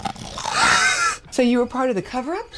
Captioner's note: bones crunching; laughing